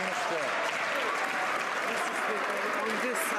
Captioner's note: some Applause